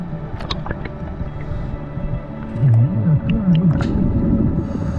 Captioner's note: underwater sounds continue